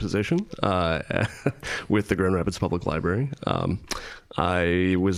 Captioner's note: chuckling